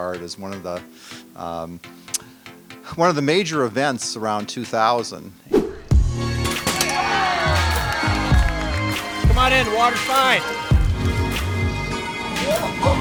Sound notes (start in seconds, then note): 5.5 upbeat music; 6.4 crowd cheering